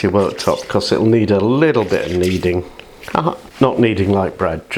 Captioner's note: laughs